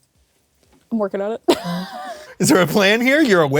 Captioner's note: guffaws